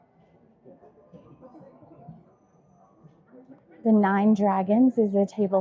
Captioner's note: crowd chattering